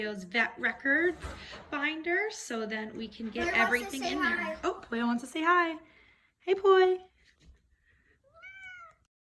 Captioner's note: meows